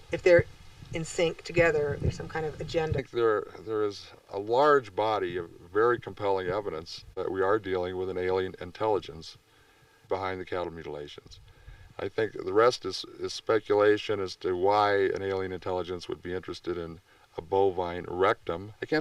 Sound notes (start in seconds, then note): none